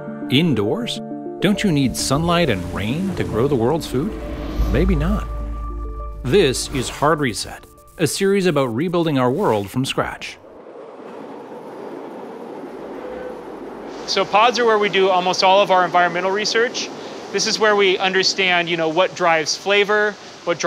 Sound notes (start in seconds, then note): 10.4 train tracks rattle; 12.9 train horn whistles